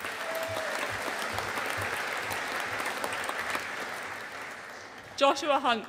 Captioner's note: audience applauding